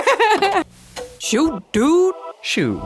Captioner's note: automated voice